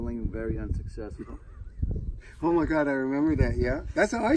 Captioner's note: laughs